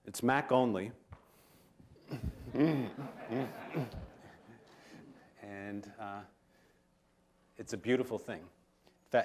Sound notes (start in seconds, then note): 2.2 laughter